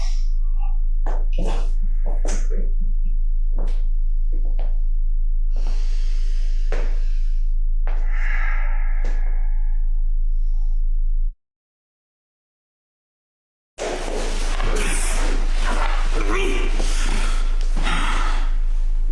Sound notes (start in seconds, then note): 8.1 Asmodeus sighs; 14.4 David grunts